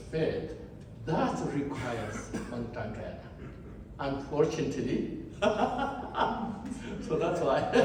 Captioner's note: laughs